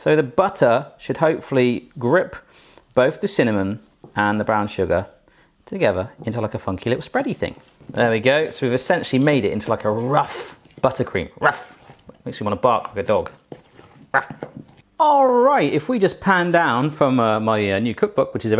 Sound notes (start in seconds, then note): 11.4 barks; 14.1 barks